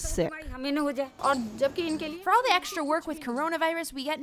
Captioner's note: through translator